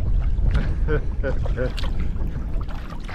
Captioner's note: laughs